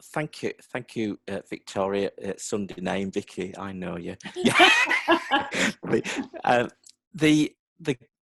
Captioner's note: laughter